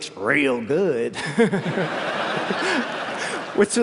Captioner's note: laughter